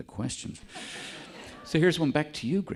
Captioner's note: audience laughing